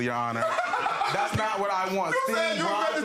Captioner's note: laughing